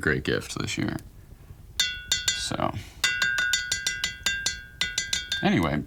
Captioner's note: brush clinking